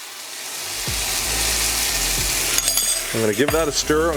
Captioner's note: pan sizzling